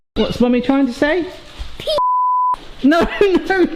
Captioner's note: beep